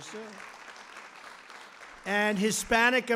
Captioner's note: applause